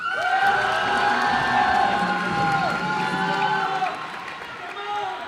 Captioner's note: cheers and applause